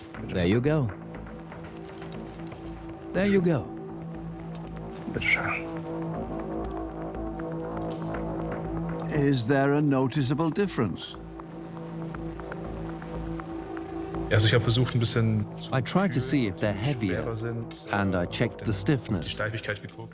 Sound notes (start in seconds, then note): 5.0 speaks German